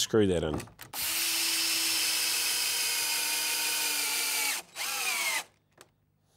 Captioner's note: drilling in screws